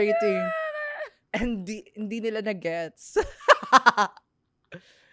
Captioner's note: laughs